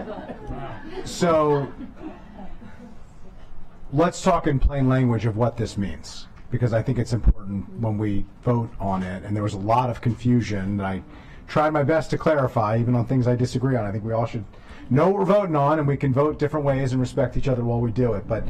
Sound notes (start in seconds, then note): 3.2 laughter